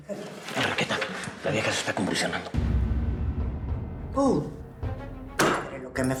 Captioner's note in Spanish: susurra